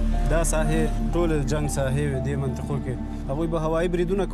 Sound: speaking Pashto

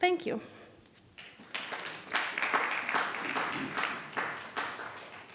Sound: attendees applauding

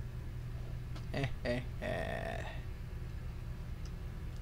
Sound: laughing

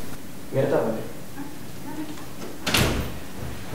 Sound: door slams

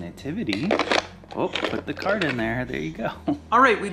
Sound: objects hitting

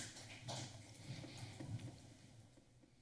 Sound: foot steps

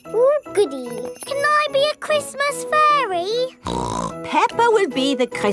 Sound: snorts

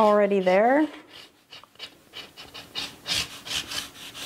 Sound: pen scrapes

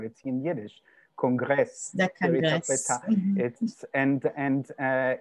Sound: speaking yiddish

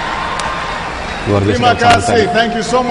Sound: non-english speech

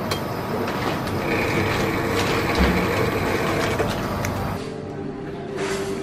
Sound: pouring sounds

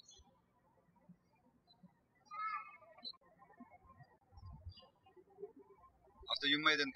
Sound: bird chirping

